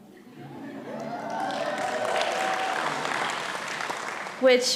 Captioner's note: audience applauding and cheering